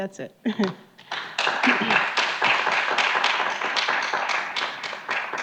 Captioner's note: audience clapping